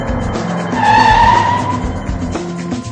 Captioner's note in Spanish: Coche derrapando